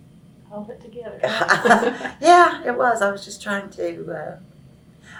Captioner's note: laughs